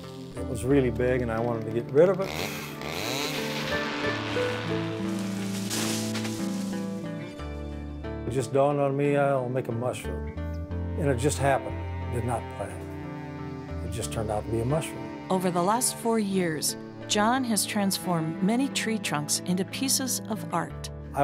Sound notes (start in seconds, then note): 2.2 chainsaw buzzing